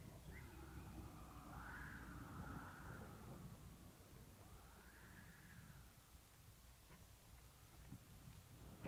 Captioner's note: sound of wind